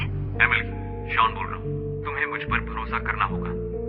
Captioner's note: none